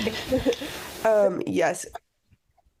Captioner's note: laughs